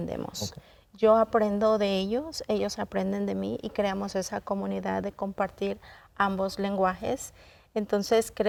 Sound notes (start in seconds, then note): 1.2 continues speaking in Spanish